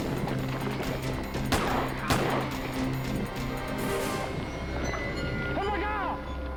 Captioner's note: suspect yelps; gun firing